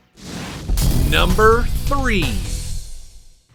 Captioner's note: explosion rumbles